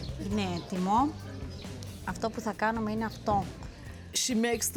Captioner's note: speaking greek